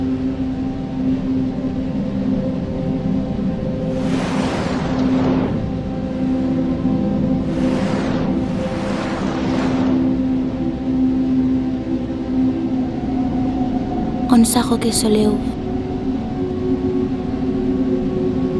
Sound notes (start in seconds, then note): 14.2 speaks non-española